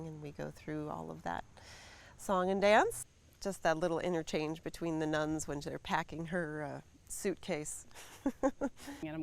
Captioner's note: laughs